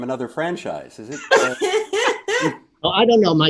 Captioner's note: laughing